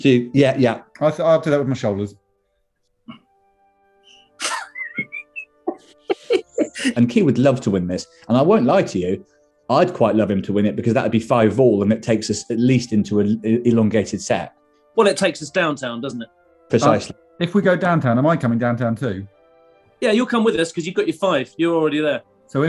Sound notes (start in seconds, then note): 4.4 giggling; 4.6 whistles